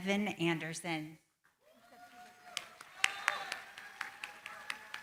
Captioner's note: applause